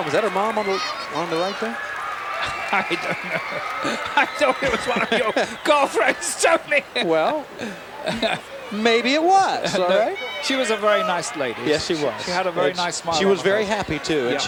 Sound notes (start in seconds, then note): 2.4 chuckling; 6.4 chuckling